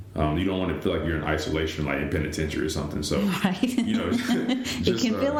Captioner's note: laughter